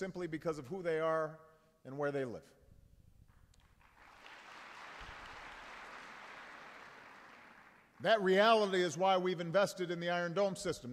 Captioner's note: applause